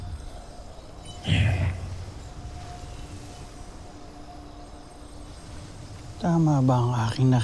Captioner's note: sparkling whoosh, enchanting chimes